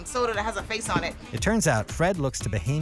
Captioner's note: voiceover